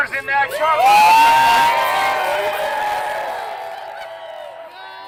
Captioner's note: crowd cheering